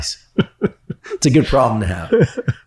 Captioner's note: laughs